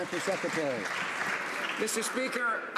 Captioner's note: some Applause